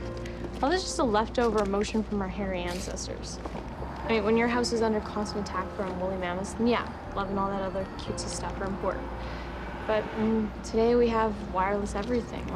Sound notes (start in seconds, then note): none